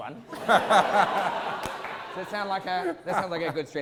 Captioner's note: audience laughter